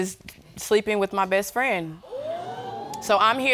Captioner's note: audience exclaims